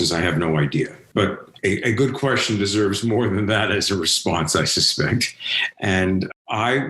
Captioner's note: laughs